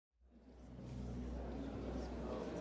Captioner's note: audience chatter